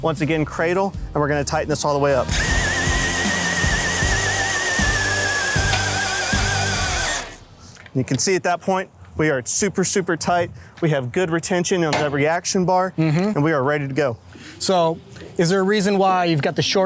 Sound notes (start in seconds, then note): 2.2 drill hums; 2.5 upbeat rock music